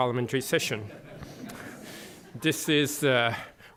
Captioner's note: laughter